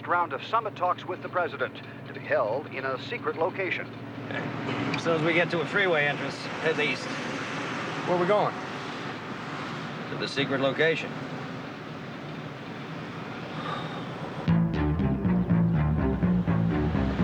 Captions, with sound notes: of summit talks with the President to be held in a secret location. Yeah. As soon as we get to a freeway entrance, head east. Where we going? To the secret location. [sighs] [adventurous music]